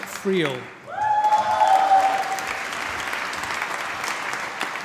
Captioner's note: applause